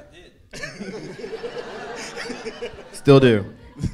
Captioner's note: audience laughing